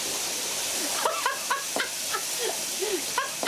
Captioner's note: Madeleine laughs